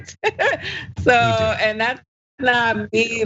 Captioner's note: laugh